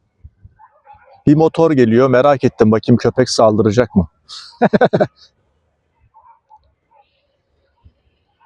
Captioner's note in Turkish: kahkaha